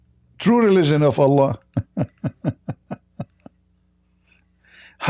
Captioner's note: Ketawa